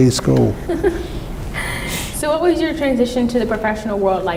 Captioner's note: laughs